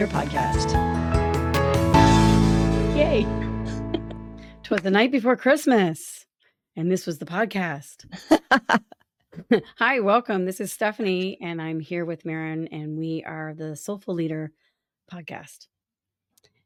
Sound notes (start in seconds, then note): 3.6 laughter